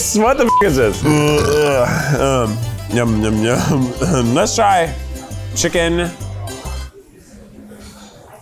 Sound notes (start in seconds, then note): 0.7 burps